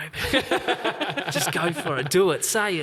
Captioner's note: group laughing